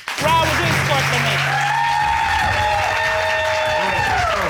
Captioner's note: audience applauding